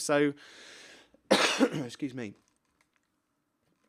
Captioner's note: coughs